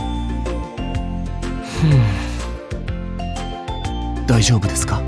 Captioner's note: sigh